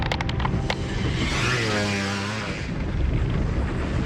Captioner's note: motorcycle